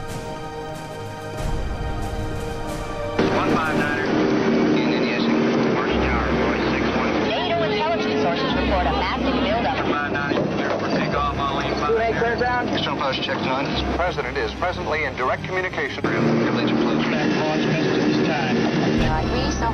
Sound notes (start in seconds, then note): 4.9 radio chatter; 11.5 radio chatter; 16.0 radio chatter